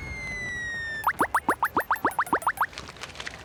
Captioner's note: beeping